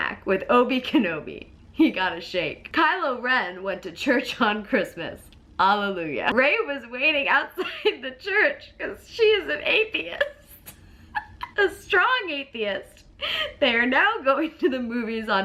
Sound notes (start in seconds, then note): 11.1 laughs